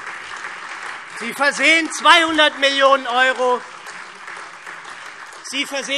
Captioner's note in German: Beifall SPD, AfD, Freie Demokraten und DIE LINKE